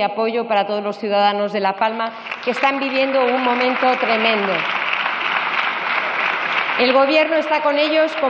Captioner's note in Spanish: Aplausos